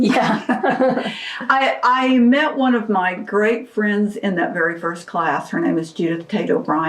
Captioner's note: laughter